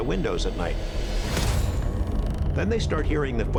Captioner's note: creaking